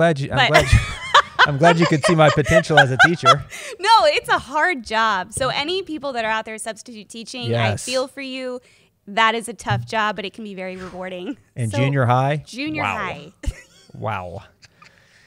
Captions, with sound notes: [laughs] -I'm glad you could see my potential as a teacher. -[chuckles] No, it's a hard job. Any people that are out there substitute teaching, I feel for you, that is a tough job, but it can be very rewarding. -In junior high, wow. -Junior high. -Wow.